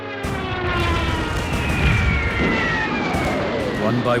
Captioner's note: bombs explode